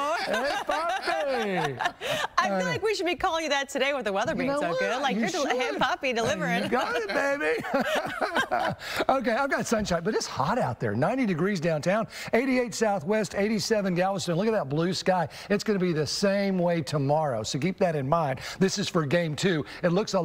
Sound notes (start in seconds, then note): 2.6 laughter